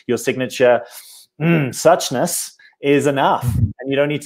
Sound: sniffs

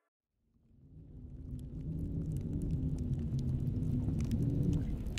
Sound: crackling fire sound and wind

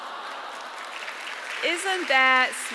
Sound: audience applauds

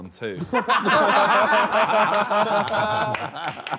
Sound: all laughing

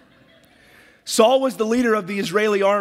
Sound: audience laughs

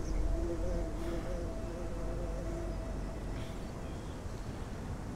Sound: bee buzzing

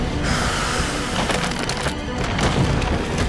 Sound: crackling

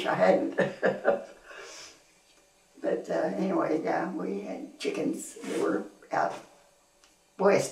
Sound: laughs

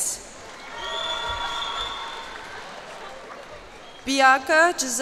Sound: cheers and applause

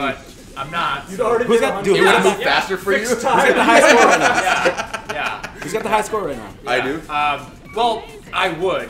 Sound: laugh

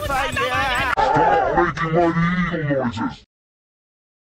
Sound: distorted

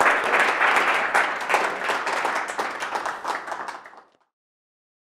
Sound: audience applause

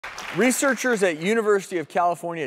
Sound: applause

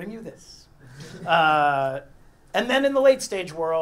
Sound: laugh

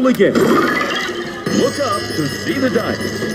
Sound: machine whirring

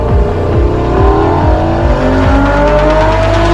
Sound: engine roaring

